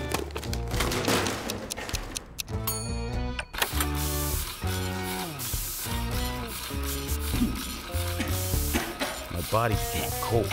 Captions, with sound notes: (timer dings) (coughs) My body became cold.